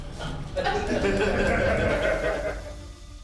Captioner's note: inmates laugh